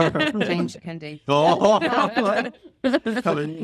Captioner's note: everyone laughs